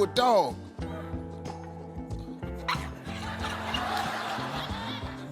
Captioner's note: audience laughing